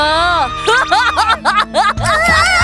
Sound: evil laugh

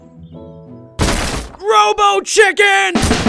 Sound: loud crash; upbeat intense music

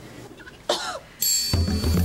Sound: <i>coughs

